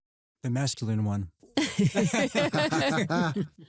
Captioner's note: laughter